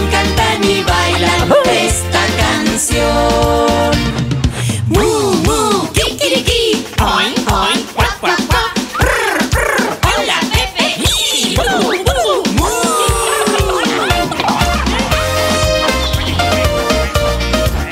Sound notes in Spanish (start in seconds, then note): 14.8 Cacareo; 15.9 Música alegre